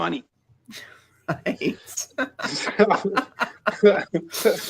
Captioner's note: laughs